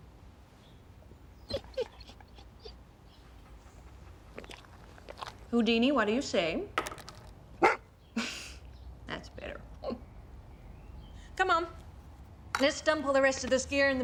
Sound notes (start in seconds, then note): 1.4 dog whimpering; 7.6 dog barking